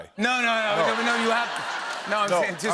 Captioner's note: laughter